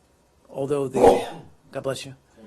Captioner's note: sneezes